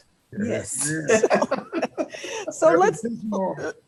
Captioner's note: panelists laughing